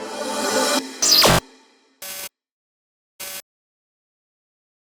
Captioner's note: ambient music; static buzzing